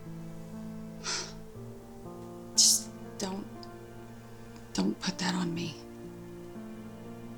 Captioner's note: sighs